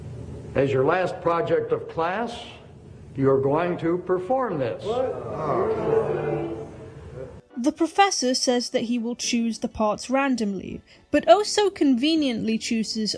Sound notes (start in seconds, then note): 4.8 sounds of disapproval